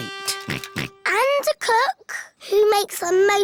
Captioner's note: chuckles; oinks